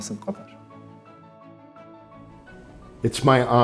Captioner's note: speaking